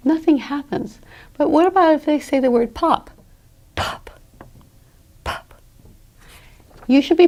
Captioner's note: pop . . . pop